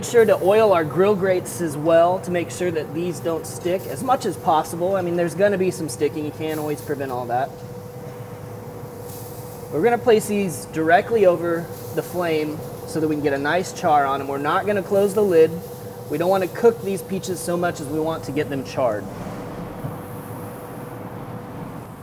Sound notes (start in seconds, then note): 9.6 peaches sizzle